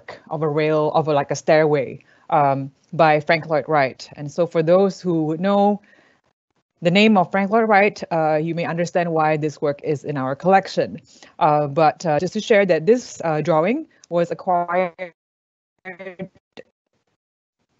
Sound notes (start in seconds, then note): 15.9 audio glitching